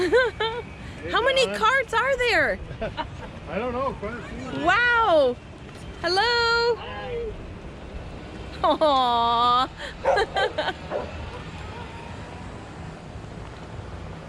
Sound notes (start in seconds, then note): 10.9 dog barking